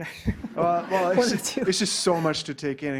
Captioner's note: class laughing